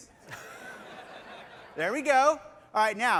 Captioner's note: laughter